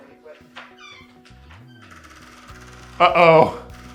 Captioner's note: door creaks